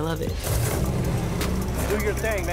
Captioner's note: engine revving